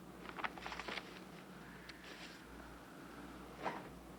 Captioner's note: page rustles